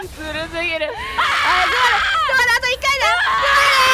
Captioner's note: placed scream